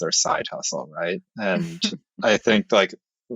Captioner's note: <Laugh>